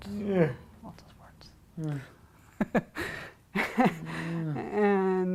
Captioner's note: laughing